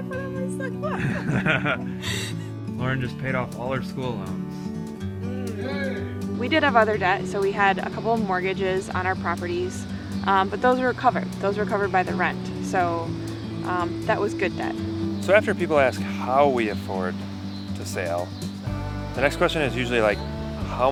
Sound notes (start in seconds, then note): 5.2 man cheering